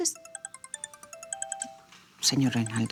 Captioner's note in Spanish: Suena un celular